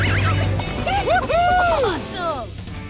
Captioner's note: cheering